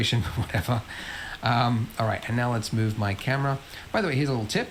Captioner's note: laughs